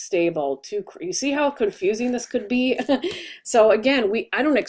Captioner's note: laughs